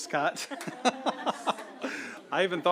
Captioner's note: laughter